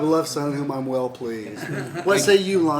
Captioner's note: laughter